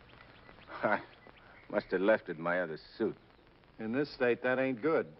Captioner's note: chuckles